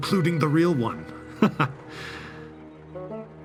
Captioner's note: awkward chuckle